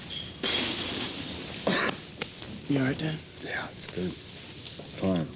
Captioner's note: coughs